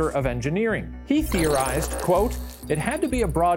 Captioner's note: static buzzes